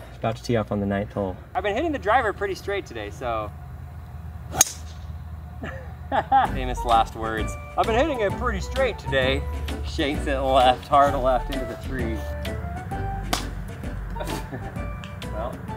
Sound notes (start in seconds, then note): 4.5 golf club pings; 5.6 chuckles; 12.7 playful music